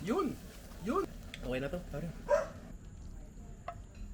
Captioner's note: dog barks